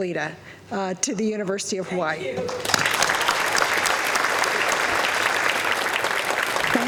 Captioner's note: applause